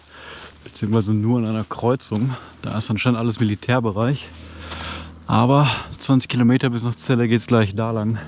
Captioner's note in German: Seufzt